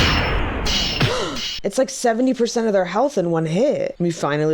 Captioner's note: gasps